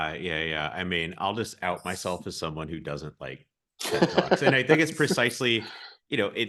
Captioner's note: laughs